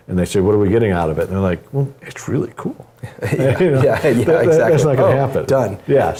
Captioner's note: laugh